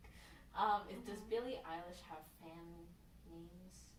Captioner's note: none